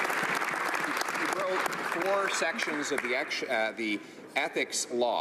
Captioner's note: some Applause